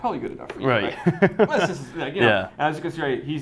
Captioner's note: chuckling